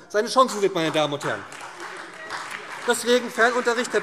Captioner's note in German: Beifall SPD und DIE LINKE